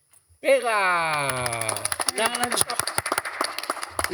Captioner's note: applause